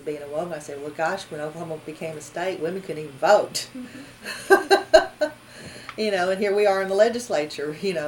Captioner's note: laughs